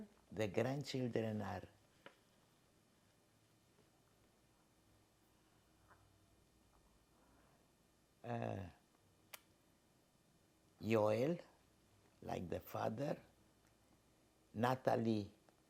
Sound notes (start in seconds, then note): 1.9 pauses 8 seconds